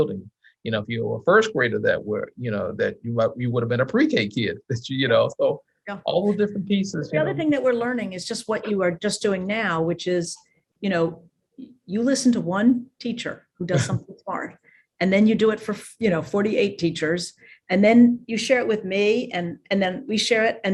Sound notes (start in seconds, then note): 13.7 chuckles